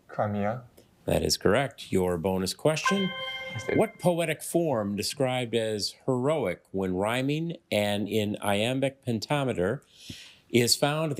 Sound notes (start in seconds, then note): 2.8 ethereal ring